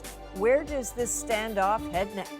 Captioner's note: speaking chinese